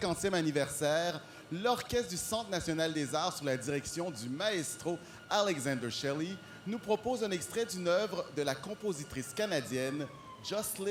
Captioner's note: speaking french